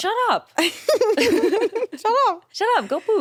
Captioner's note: chuckles